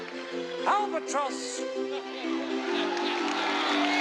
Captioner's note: crowd cheering